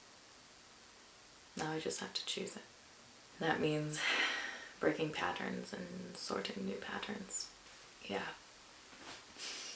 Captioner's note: sighs